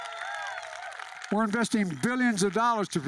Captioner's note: applause